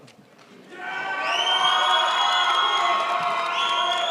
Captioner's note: crowd applauds